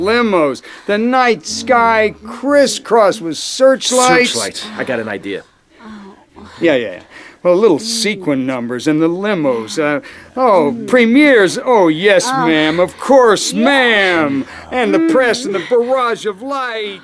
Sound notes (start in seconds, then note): none